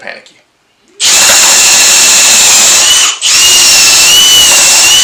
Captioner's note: drill buzzes